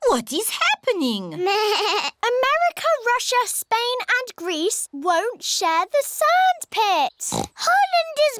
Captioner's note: bleats; oinks